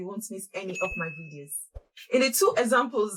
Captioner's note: bell rings